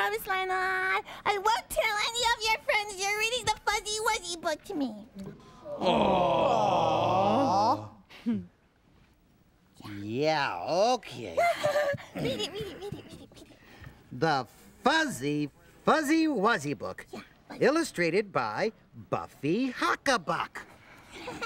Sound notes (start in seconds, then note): 8.8 whispers; 11.3 chuckles